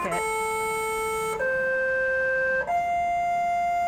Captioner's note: melodic beeping